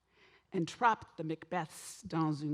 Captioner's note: speaks French